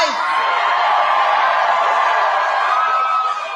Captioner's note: crowd cheering